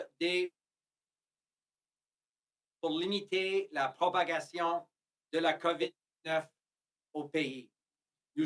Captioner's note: speaking French